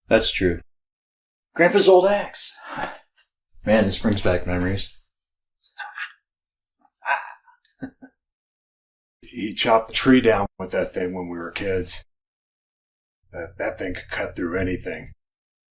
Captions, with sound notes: That's true. Grandpa's old axe. Man, this brings back memories. [chuckles] He chopped the tree down with that thing when we were kids. That thing could cut through anything.